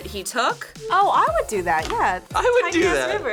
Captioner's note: laughs